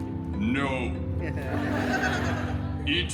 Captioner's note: guests chuckling